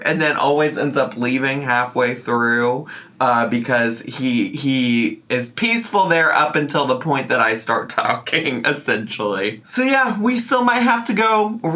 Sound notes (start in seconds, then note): none